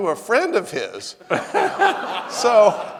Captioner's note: audience laughing